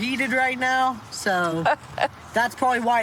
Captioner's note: laughs